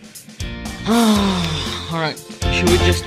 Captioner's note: sigh